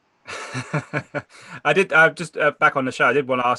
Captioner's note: laughing